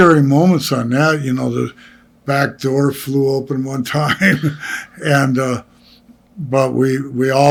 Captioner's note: laughing